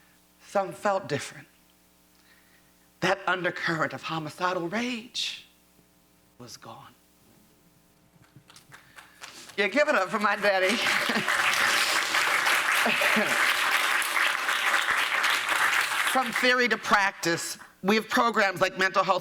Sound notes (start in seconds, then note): 12.0 applause